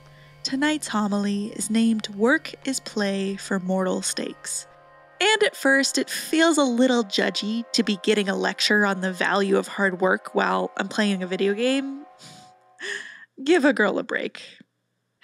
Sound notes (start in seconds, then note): 11.9 chuckling